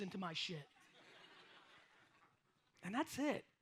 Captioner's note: audience laughs